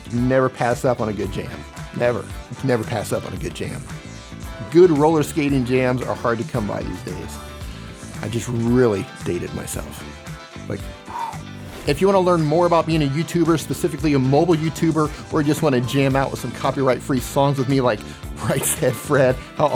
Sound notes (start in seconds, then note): 10.8 exhales